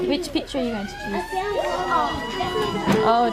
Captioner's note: work siren blares